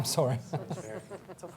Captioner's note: laughter